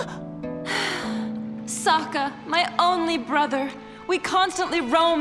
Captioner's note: sighing